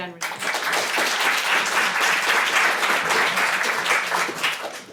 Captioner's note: applause